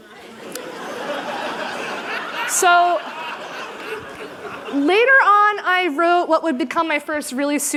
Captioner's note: laughter